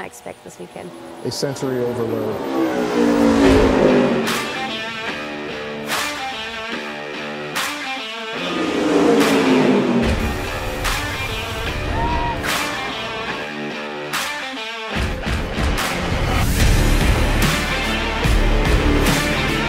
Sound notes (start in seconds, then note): 2.7 car whooshes; 3.9 powerful music; 8.3 cars whooshing; 11.6 people cheering; 13.7 powerful music continues